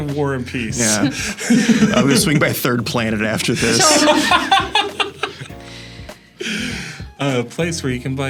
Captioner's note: laughs